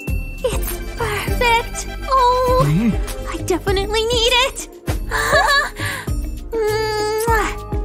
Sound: grumbles

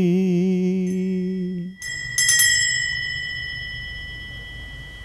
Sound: bell rings

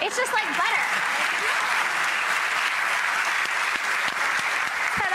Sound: audience cheers

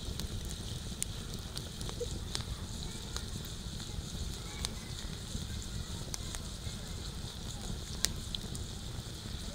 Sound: sound of fire

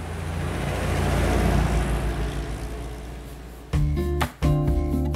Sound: car engine roaring

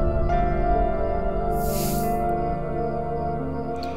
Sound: sighs

